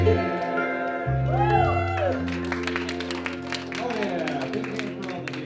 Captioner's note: applause